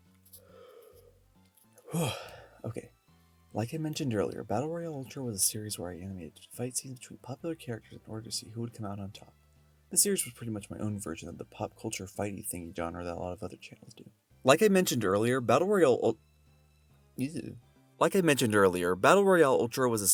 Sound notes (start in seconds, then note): 1.8 exhale